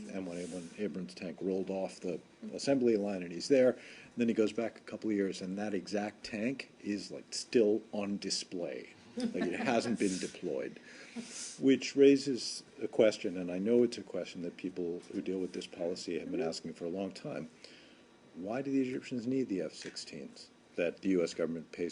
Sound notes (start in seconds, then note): 9.2 laughter